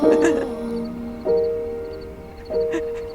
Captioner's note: Zoe crying